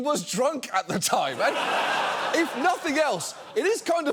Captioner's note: studio audience laughs